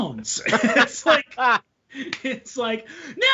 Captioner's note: all laughing